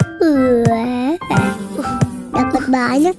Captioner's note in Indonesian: suara lebah terbang